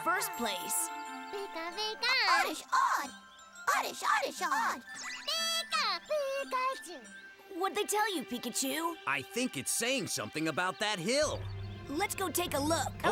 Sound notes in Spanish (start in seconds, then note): 4.3 preocupado